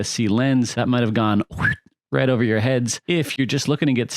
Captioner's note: whistles